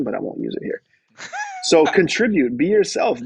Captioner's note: laughs